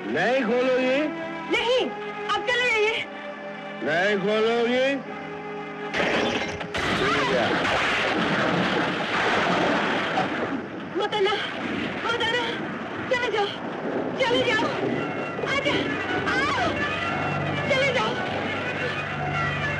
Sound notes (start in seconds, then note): 8.4 thunder Rumbling